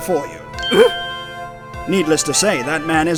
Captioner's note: panicked yelp!